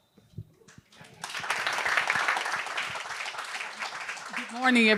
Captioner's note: audience applauding